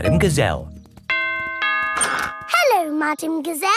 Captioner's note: doorbell rings